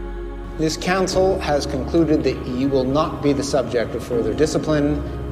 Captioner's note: voiceover